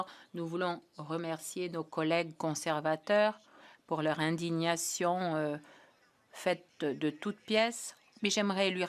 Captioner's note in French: voix de l'interprète